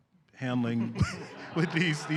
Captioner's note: laughter